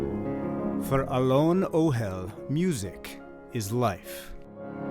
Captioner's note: voice-over